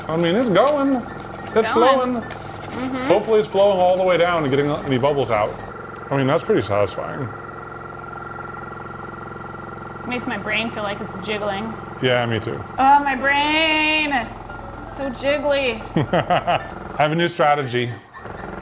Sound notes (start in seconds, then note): 7.2 vibrating table whirring; 15.8 laughing